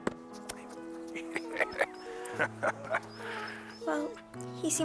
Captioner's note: Hatcher laughing